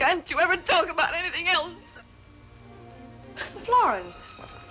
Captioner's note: sobs